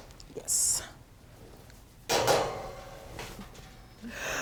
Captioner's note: oven clanging